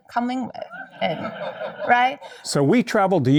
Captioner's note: audience laughing